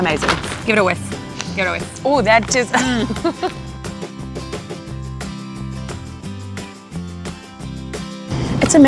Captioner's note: laughing